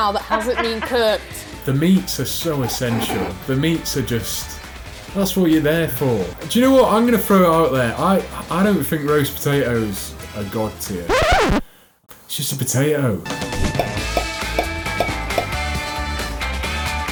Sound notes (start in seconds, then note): 2.4 laughs; 11.1 record scratches